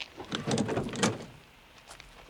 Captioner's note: car stopping